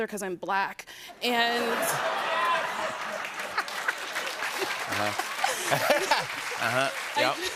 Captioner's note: laughter and applause